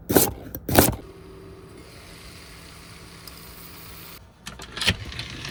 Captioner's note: food sizzling